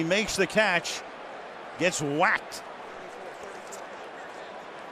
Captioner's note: pa announcement